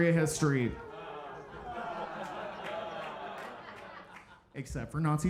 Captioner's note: audience groaning and laughing